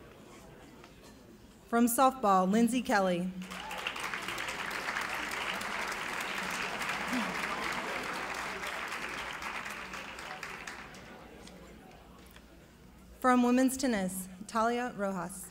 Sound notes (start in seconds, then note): 3.4 clapping